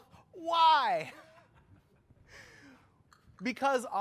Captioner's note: laughter